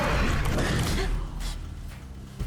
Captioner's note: gasps